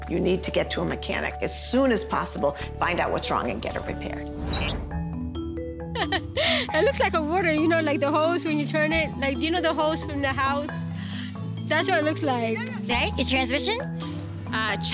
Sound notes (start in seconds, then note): 5.9 laugh